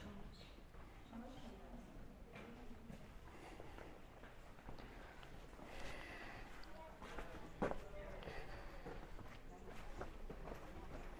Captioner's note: background chatter